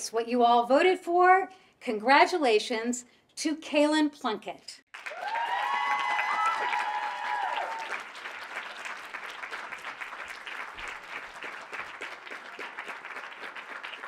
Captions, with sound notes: what you all voted for. Congratulations to Cailin Plunkett. (audience applauding)